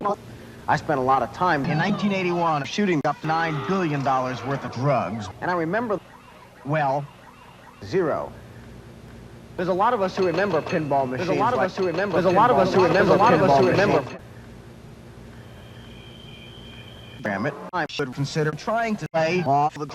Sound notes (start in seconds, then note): 15.2 crickets